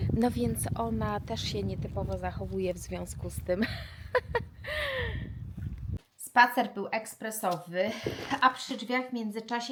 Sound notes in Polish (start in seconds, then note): 3.6 śmiech; 4.6 wciągnięcie powietrza